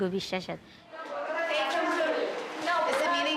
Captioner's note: people talking in background